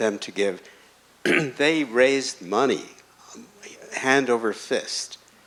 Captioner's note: clears throat